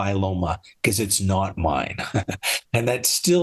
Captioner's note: laughs